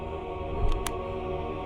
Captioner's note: click